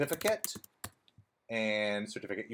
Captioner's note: keyboard clattering